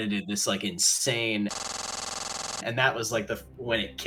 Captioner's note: slenderman static